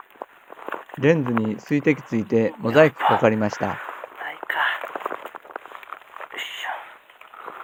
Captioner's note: cry